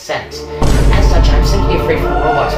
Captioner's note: music crescendos; music intensifies; boom